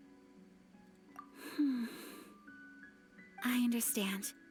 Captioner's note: sighs